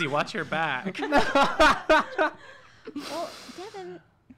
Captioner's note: laughs